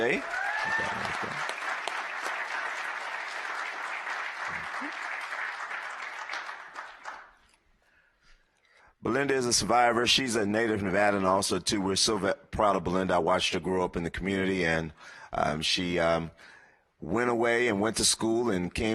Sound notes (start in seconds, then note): 5.9 applause